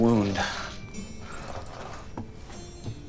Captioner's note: calm music playing; birds chirping